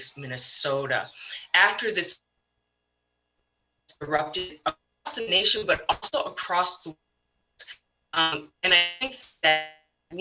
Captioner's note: protests